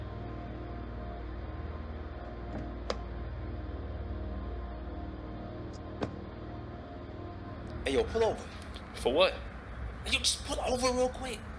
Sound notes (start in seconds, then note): 2.6 car door opens; 6.0 car door closes